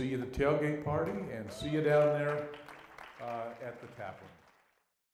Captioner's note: applause